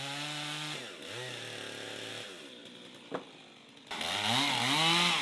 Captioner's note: chainsaw rumbling; chainsaw roaring